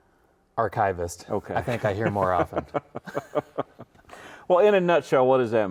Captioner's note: laughs